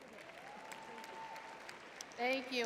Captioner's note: crowd cheering